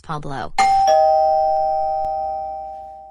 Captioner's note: doorbell rings